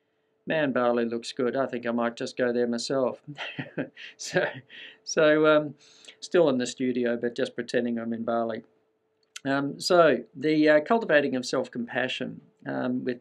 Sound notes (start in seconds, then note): 3.3 laughs